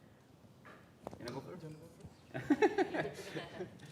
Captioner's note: faintly speaking; laughing